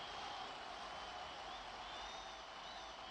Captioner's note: cheering continues